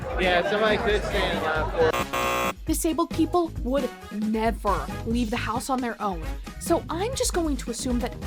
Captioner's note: loud incorrect buzzer